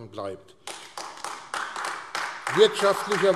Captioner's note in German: Beifall AfD